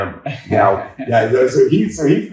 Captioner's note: laughing